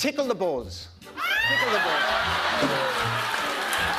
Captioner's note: laughter